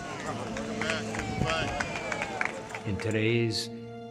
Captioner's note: applauding